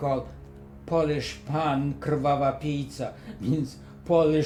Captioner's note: russian insult